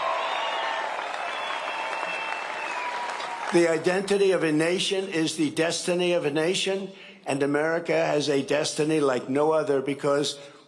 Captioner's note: cheering and applause